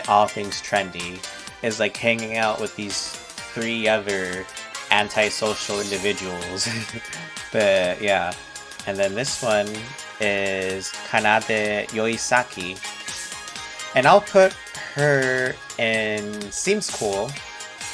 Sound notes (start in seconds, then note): 6.6 laughs nerdily